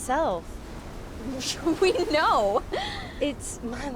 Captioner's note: laughs